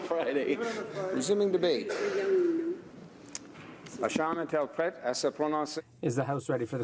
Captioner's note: speaking French